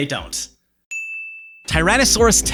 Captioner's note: ding!